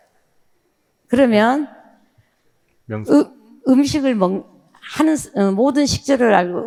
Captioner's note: speaking in foreign language